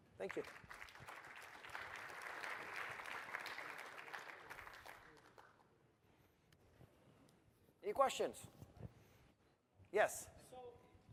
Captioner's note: applause